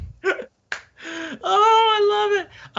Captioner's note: all laughing